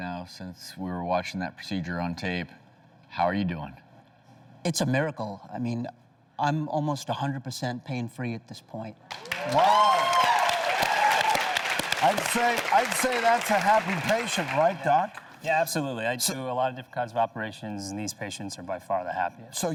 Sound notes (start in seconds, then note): 9.1 audience applauding